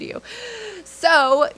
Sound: inhales sharply

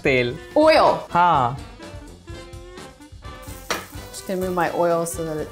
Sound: speaking in Hindi

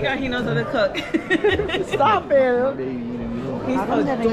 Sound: laughter

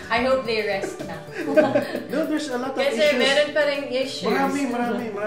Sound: laughs

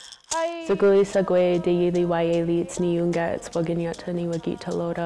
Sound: speaking Oneida language

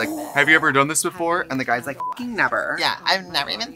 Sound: beep

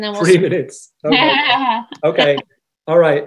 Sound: laughs

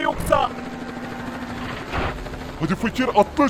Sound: helicopter voice

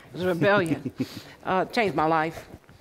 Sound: laughter

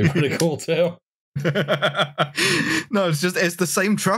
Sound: laughter

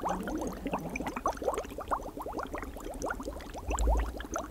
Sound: water bubbling

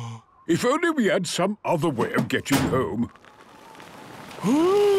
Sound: clangs; sliding

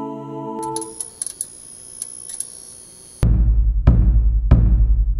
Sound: sign chirping

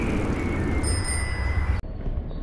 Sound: bicycle bell

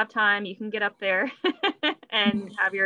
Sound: laughs

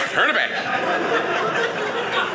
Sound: audience laughing

